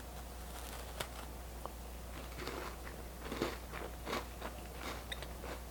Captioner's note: softly chewing and crunching